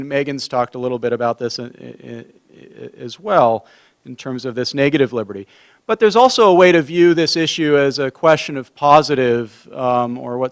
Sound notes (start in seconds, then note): none